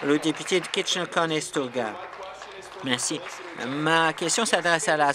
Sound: applause

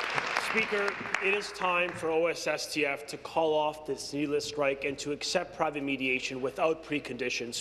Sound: applause

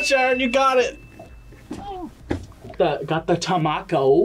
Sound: gags

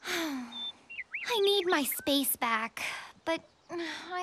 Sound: sighing

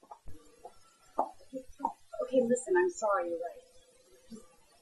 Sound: heels on floor

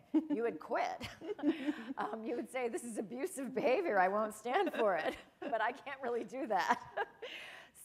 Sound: chuckle

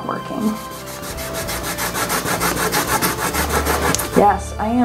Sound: eraser rubbing

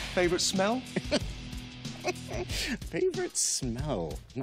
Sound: laughs

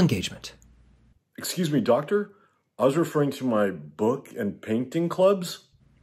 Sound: none

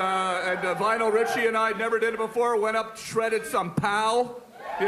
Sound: cheering

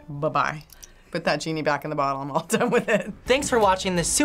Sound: chuckles

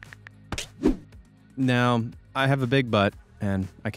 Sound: swoosh

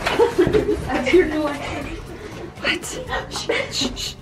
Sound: laughing

